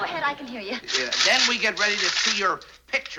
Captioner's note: coins jingling